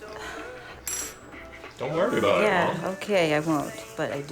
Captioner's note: sighs